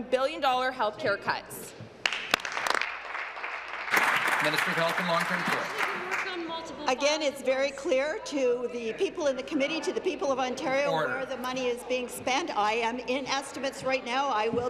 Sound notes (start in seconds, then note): 6.6 applause